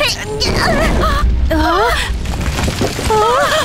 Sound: both gasp; both shout frantically

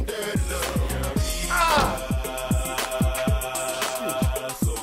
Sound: groaning lightly

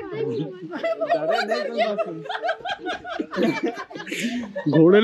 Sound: laughing

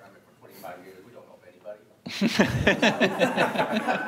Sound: laughing

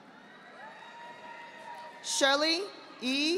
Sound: audience applauding

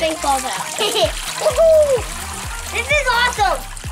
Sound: laughing

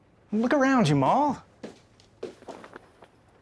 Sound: none

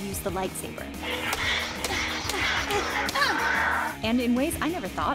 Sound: lightsaber clashing sounds, grunt

